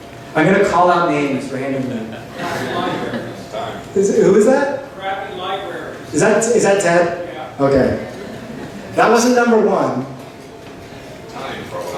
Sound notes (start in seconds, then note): 5.2 voiceover; 7.5 voiceover; 11.8 voiceover